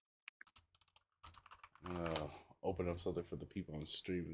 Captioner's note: keyboard clicking